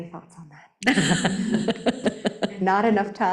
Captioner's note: laughing